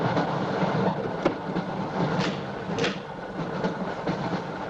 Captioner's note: distant door opening